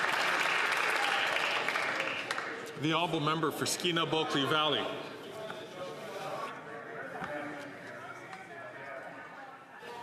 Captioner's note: some Applause